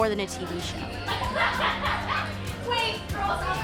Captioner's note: all laughing